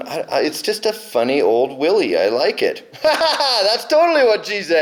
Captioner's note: laughing